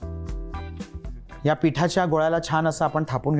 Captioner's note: none